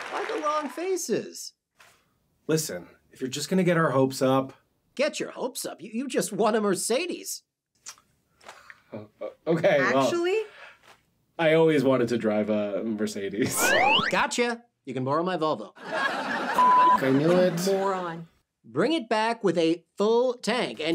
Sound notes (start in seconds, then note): 13.6 slide whistle; 15.8 audience laughs; 16.5 beep